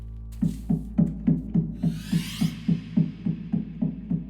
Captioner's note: knocking